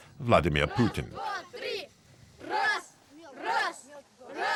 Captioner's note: Russian spoken audio